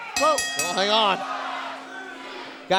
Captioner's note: bell ringing